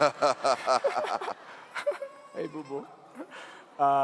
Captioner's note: laughing